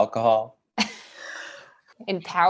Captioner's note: all laugh